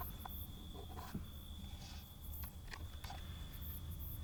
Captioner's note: box lid scrapes